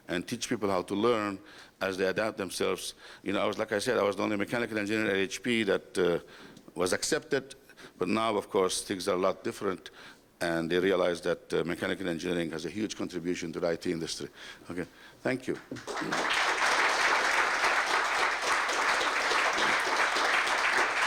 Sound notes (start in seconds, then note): 15.5 applause